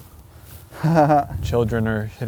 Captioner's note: laughs